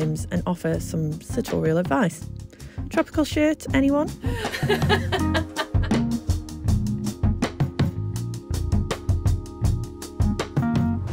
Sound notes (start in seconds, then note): 4.2 laughs; 6.0 relaxing music